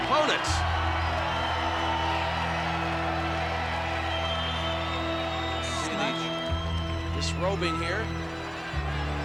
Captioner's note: applause